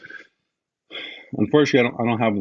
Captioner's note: sighs